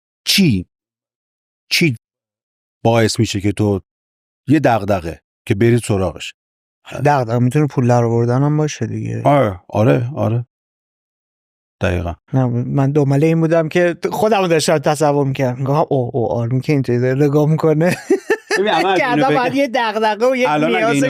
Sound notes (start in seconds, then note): 17.9 laughs